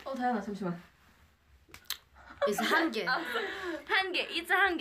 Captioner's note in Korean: 흐핳핳